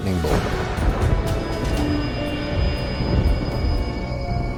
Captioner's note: lightning whirring